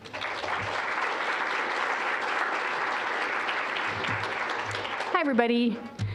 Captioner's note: applause